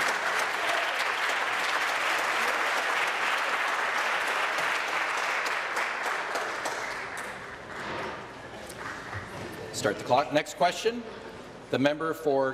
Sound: applause

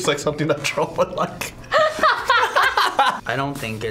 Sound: both laugh

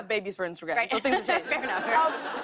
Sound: laughter

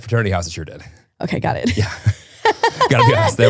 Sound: laughing

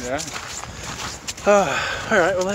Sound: sighs

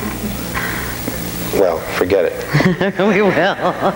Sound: laughing

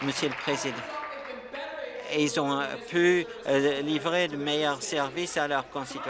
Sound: applause

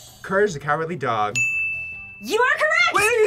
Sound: bell rings

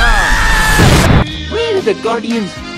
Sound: explosion

